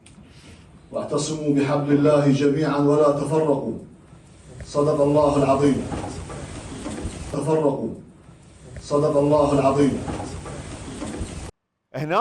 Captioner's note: reciting a verse from Quran